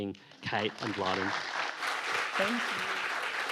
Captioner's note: audience applauding